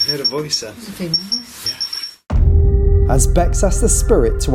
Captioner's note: beeping